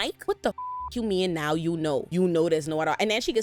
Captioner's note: beep